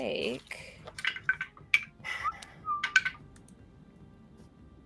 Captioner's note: dice rattling